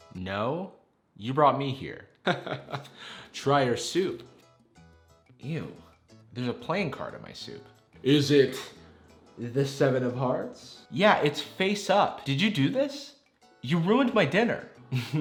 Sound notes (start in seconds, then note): 2.2 chuckles; 14.9 laughs